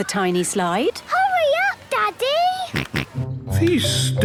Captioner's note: George snorts